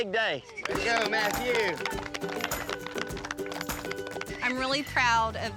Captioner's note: everyone applauds